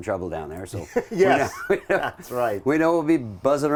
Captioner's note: laughs